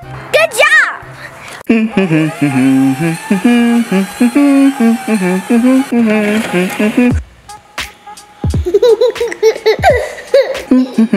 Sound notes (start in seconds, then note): 1.6 humming; 8.6 laughs; 10.7 humming